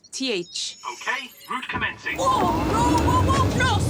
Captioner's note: engine revs